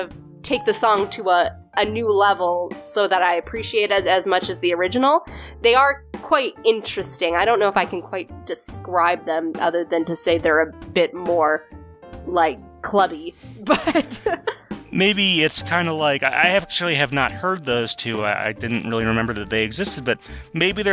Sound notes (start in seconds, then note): 13.6 laughs